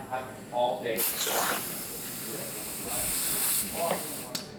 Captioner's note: air whooshing